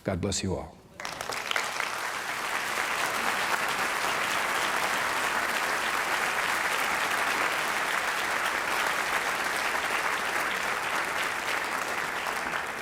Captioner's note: clapping